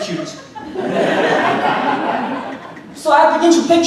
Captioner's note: audience laughing